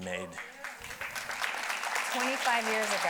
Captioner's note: audience applauding